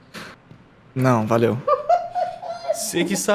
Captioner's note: laughing of the accent